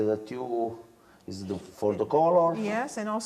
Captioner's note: speaking Italian